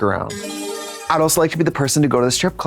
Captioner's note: bright chime